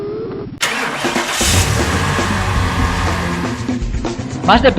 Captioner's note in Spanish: Coche arrancando